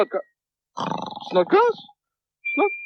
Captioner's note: Snodgrass snores